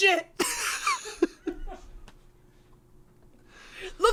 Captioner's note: laughs